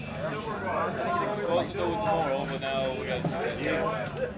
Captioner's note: people chattering